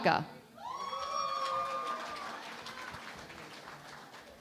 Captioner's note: cheering and Applause